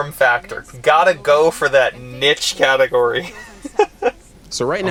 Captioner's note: laughs